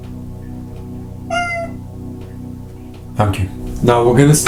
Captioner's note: meowing